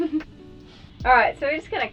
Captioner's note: laughs